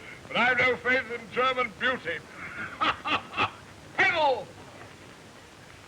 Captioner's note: laughing